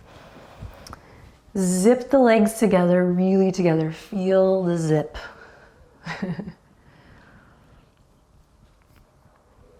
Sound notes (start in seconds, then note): 6.0 chuckles